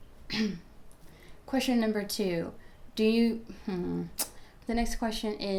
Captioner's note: clearing throat